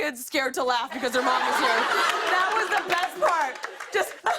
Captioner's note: laughter